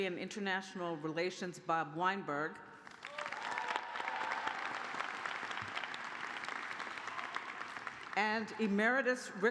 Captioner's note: cheers and applause